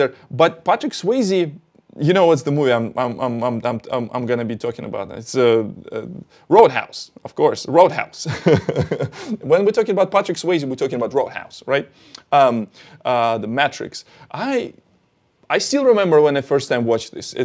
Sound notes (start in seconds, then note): 8.3 laughs